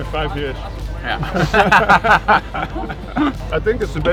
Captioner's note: laughter